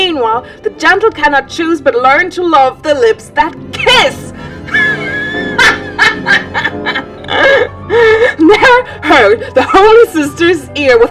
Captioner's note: laughs